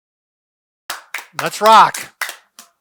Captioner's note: clapping